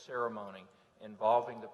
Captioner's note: none